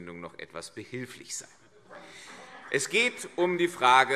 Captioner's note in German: Vereinzelter Beifall CDU